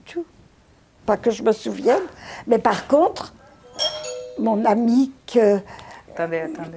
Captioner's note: doorbell